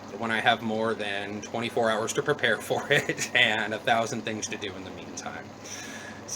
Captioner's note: chuckle